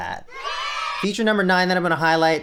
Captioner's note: kid's cheering